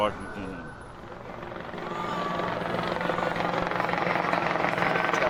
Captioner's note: helicopter whirs